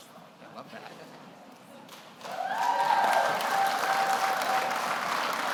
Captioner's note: audience applauds